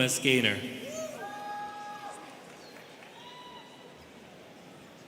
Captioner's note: students cheering